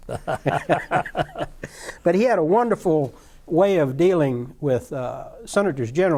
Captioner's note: laughter